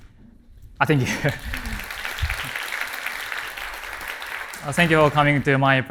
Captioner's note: applause